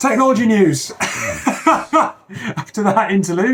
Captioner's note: laughing